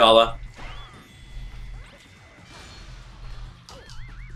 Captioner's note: electric buzz